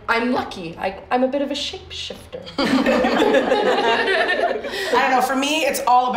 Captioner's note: laughter